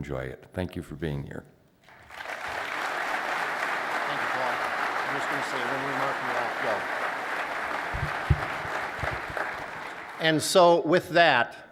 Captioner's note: applause